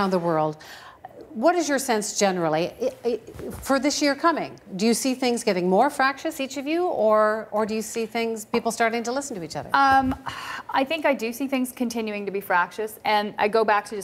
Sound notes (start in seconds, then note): none